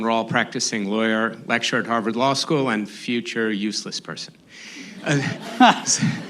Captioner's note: laughter